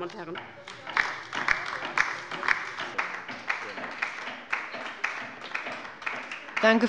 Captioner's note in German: Beifall bei der LINKEN - Zuruf von der CDU: Schwachsinn!